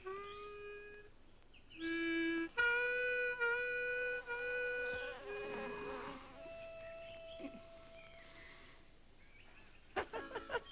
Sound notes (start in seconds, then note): 4.2 bee buzzes; 10.0 dummy laughs